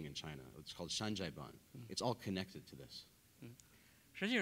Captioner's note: speaking in Chinese